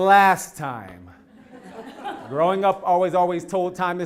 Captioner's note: laugh